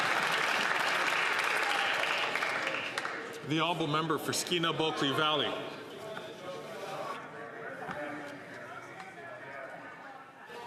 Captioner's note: some Applause